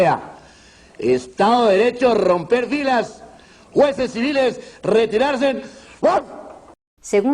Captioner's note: bark